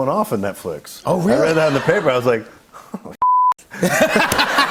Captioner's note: laughs